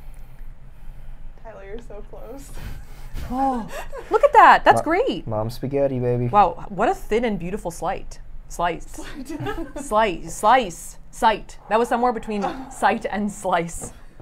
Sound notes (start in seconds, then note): 9.0 laughs